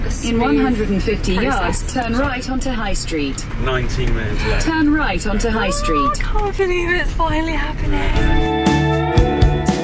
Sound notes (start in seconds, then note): 2.0 sat nav talking in background